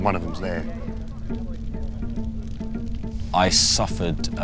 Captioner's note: fire crackling